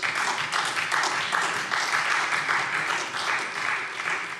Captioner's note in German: Beifall SPD und vereinzelt Freie Demokraten